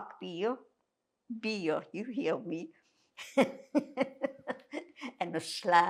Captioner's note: laughing